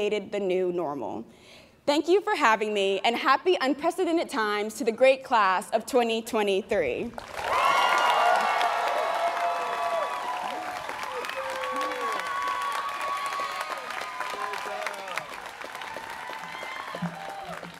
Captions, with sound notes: and created the new normal. Thank you for having me and happy unprecedented times to the great class of 2023. (students cheering)